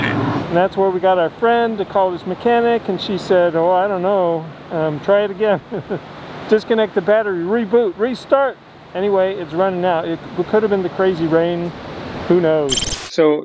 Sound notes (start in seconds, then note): 5.8 baldly laughing